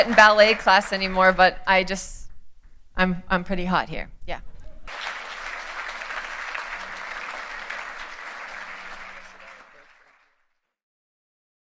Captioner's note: applause